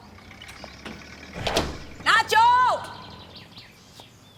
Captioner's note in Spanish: Sonido al abrir la puerta